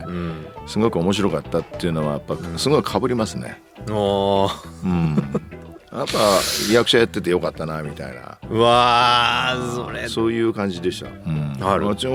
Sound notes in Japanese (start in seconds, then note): 6.0 鼻息